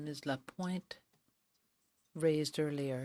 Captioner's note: speaking french